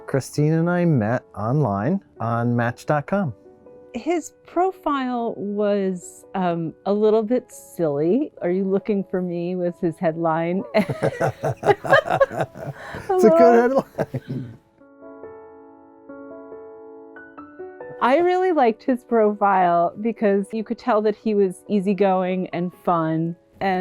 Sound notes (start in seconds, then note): 10.8 both laugh; 15.4 lighthearted piano music